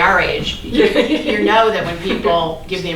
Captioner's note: laughing